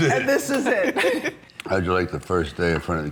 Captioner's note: all laughing